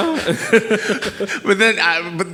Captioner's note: laughing